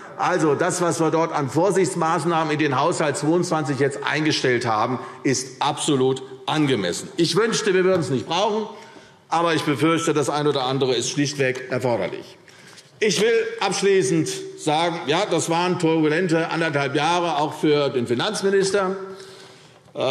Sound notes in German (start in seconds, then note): none